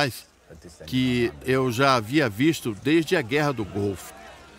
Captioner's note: loud chatter